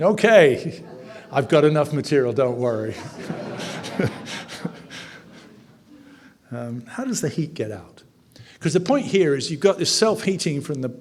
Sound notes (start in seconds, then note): 2.8 audience laughing